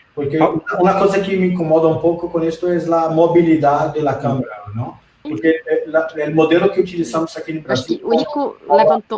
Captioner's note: multiple voices